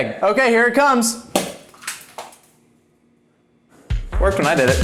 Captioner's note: eggs splats wall